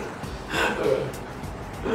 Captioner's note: laughs